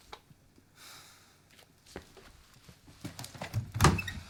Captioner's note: Merrill sighs